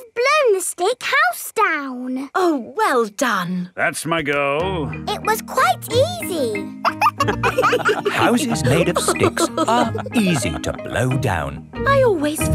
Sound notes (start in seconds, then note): 6.8 wolves laughing